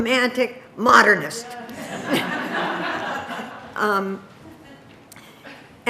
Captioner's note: audience laughing